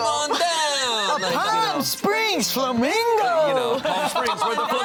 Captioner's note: laughs